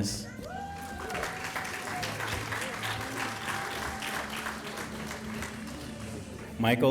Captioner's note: applause